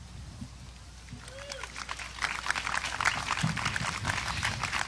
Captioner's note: audience applause